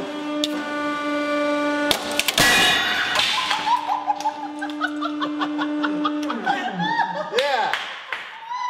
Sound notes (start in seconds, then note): 1.8 crack, EXPLOSION!; 3.3 screams, laughs; 7.8 claps, laughing